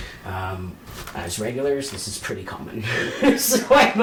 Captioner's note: laughs